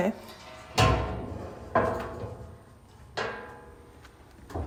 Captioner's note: metal knocking